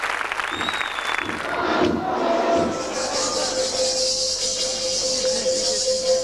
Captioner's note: Ακούγονται πυροτεχνήματα